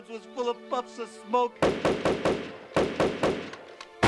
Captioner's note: guns firing